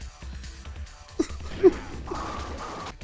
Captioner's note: more pathetic sobbing